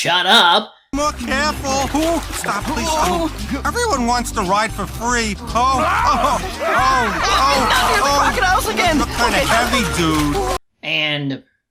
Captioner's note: Hippo and Leo yapping incessantly